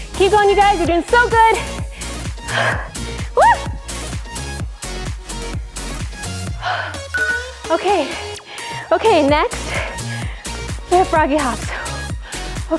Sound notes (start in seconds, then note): 3.4 shrieks